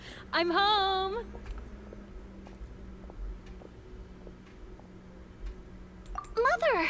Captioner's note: footsteps